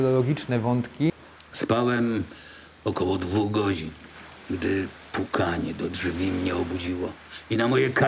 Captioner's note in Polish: Lektor